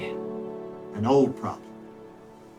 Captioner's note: birds chirping